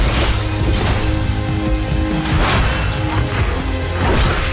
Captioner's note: sword sound